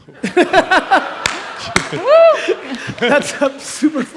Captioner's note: audience laughs